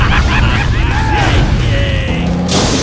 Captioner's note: explosion; overlapping laughter; explosion